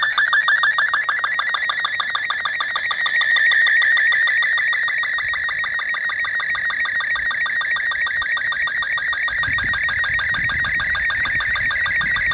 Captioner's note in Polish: Trasmisja SSTV